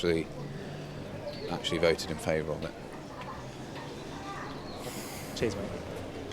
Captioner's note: sighs